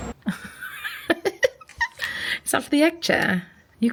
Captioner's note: laughing